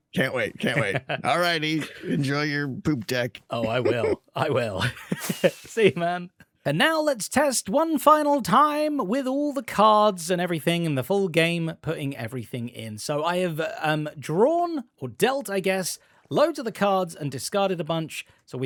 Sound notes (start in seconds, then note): 3.5 laughs